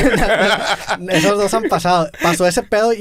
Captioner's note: laughs